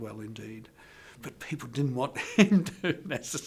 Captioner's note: laughing